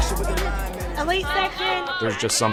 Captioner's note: music fades out; cheering